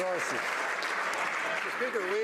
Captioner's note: some Applause